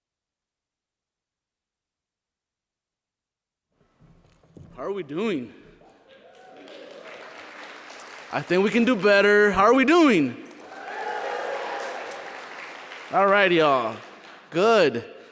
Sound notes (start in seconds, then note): 6.0 applause